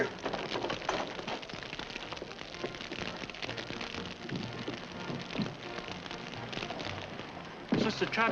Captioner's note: fire crackling